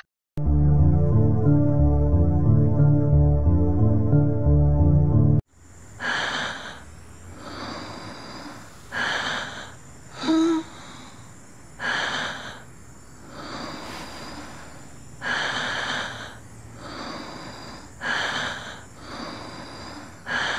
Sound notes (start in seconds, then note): 7.3 labored breathing